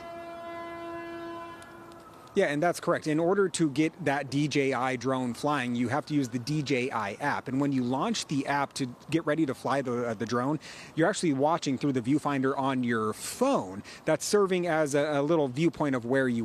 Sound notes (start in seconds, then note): 4.2 sirens